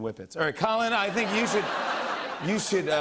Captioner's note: laughter